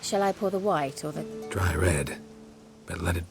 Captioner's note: none